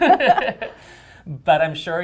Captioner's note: laughter